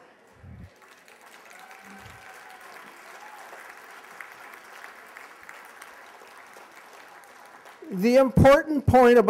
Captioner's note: applause